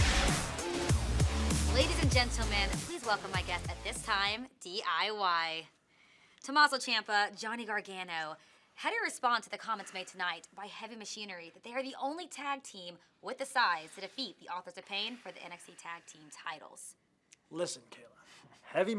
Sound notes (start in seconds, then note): none